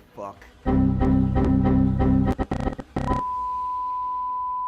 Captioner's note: computer glitching